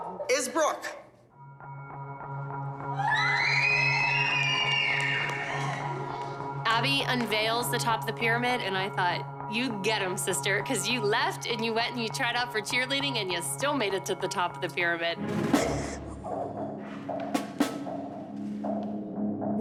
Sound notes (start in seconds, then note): 2.9 screaming